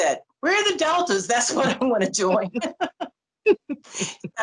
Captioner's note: laughter